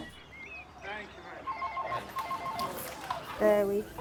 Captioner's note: phone rings